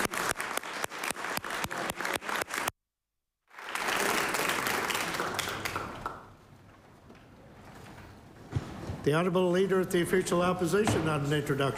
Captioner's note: applause